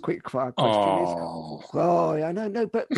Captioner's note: groans